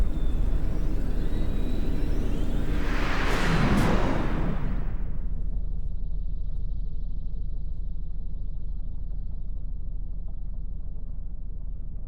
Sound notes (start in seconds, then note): 2.9 whooshing